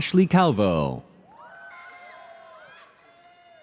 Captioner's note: audience cheers